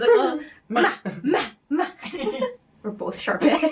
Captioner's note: making silly sounds